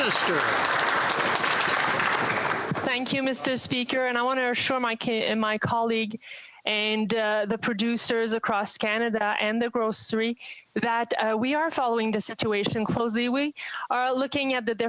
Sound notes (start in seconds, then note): 3.6 applause